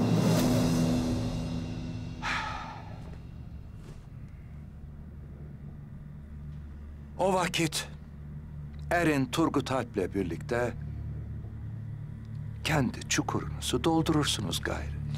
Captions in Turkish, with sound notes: (Nefes verme sesi) O vakit, erin Turgut Alp’le birlikte… …kendi çukurunuzu doldurursunuz gayrı.